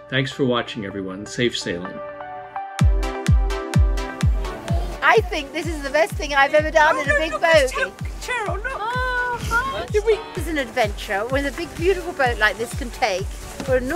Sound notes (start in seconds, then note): 3.0 upbeat music; 8.2 excited chattering